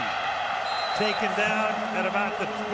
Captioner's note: whistle blows